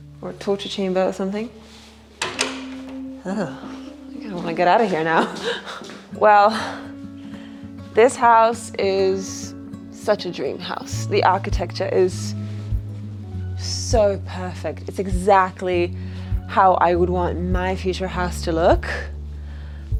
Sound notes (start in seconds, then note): 2.2 door closing